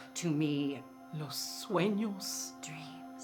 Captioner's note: speaking in foreign language